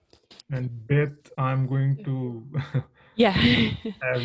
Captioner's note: laughing